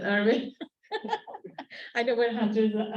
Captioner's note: laughter